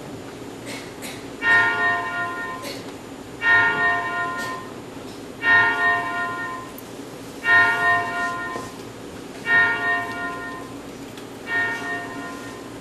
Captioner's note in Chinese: 鐘聲